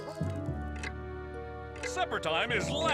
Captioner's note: clock ticks